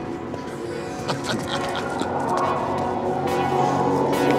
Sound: officer laughs

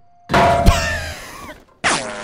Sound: laughs

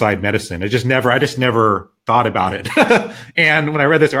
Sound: chuckles

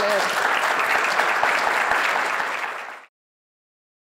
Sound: applause

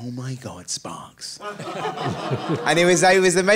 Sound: audience laughing

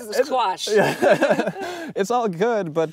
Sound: laughing

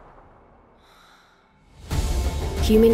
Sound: loud breath

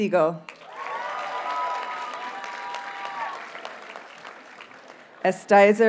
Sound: audience cheers and applauds

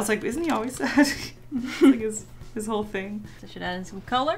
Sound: giggles

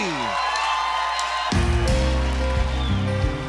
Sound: cheers

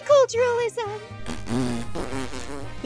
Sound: fart noises

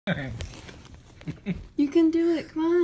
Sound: laughing

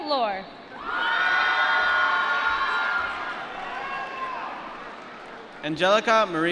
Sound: applause

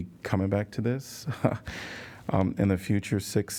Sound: laughter

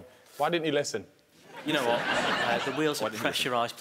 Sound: laughing

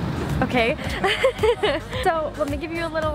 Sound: laughs

